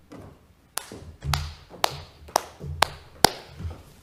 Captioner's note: clapping